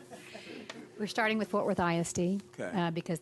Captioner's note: laughter